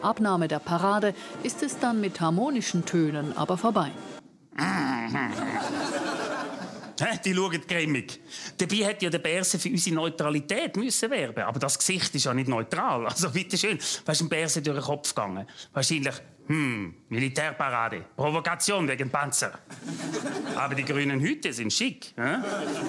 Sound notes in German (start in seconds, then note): 16.5 Mit französischem Akzent